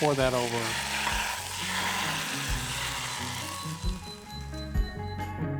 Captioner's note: oil hissing